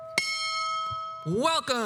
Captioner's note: bells ring